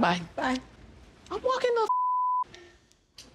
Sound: beep

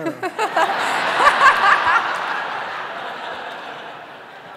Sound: audience laughing

